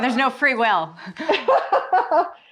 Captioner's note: chuckles; laughs